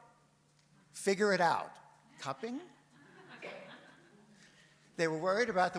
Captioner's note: audience laughs